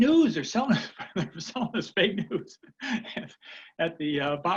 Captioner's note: laughing